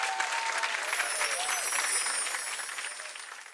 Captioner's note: chimes